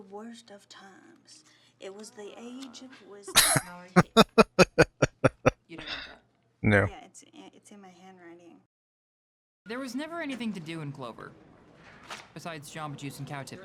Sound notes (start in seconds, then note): 4.0 laughing